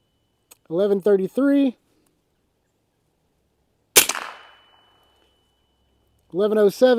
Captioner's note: gunshot